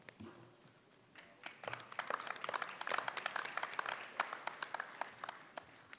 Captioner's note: applause